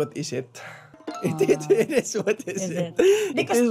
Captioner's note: chuckles